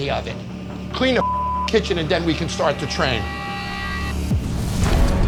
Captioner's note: beep